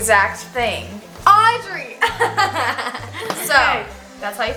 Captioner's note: laughs